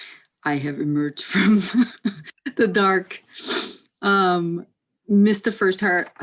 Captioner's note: laughs